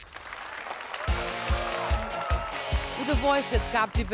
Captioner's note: applause and cheers